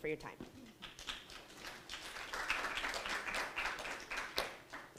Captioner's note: audience applauding